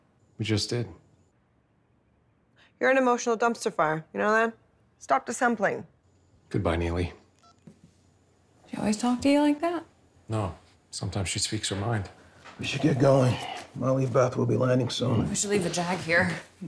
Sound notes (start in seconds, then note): 7.4 phone beeps